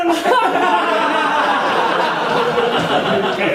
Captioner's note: audience laughing